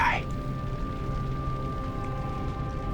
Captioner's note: fire crackling